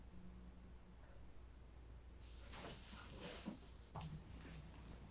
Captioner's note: water running